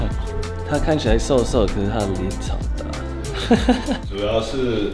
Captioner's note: Laughs; Laughs